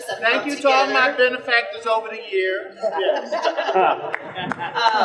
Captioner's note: general laughter